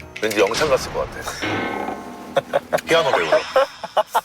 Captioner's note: Scratch